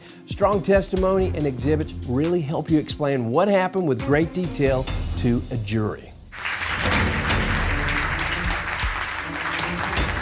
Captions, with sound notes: Strong testimony and exhibits will really help you explain what happened with great detail to a jury. [applause]